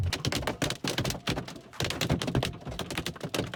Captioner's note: hail tapping